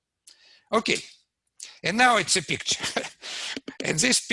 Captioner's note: laughs